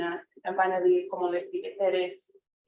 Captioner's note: speaking foreign language